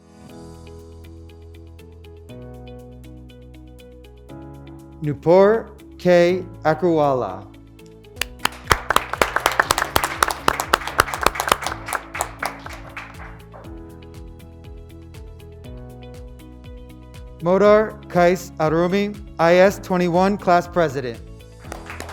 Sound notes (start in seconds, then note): 0.1 upbeat music; 8.2 graduates clapping